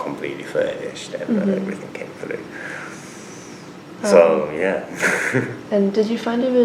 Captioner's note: laughs